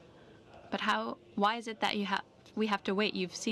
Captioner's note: speaking French